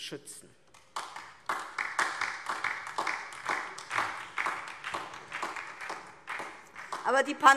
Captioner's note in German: Beifall DIE LINKE und vereinzelt SPD